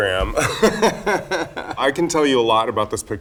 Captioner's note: Raja laughs